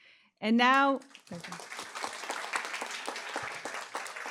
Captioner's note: applause